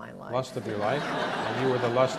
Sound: audience laughs

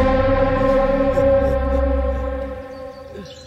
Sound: laughs

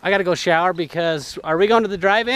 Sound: none

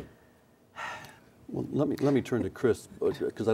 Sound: sighs

